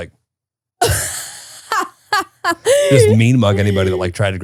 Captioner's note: laughing